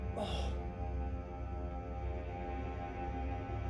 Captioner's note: groans